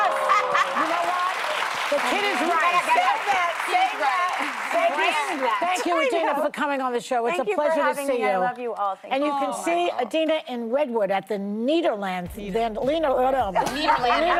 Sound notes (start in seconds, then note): 5.5 applause